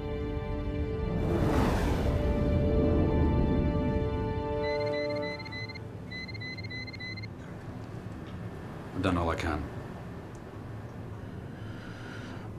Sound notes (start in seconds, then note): 4.6 alarm